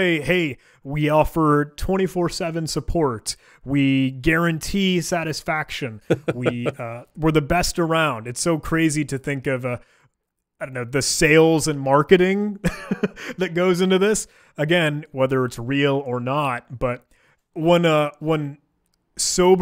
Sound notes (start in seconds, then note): 6.0 laughing; 12.6 chuckling